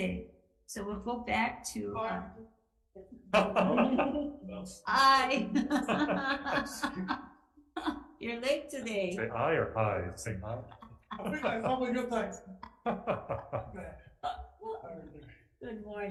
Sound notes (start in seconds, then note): 3.3 laughing; 12.8 legislators chuckling